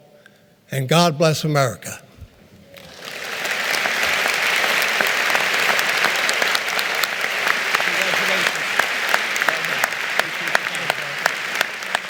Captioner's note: applause